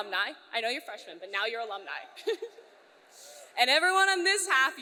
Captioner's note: laughs